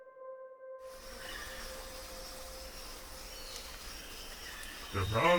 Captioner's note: birds chirping